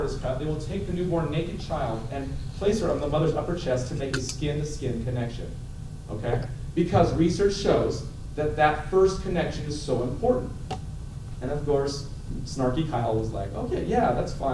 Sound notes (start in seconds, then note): none